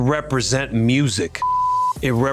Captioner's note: screen beeps